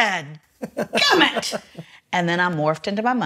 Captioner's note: laughs